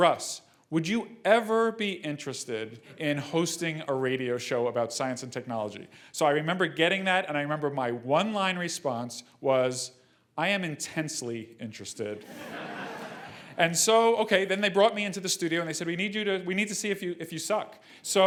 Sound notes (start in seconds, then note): 12.2 laugh